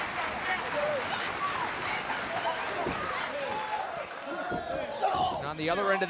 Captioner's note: crowd clapping